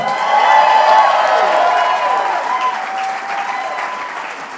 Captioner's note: applause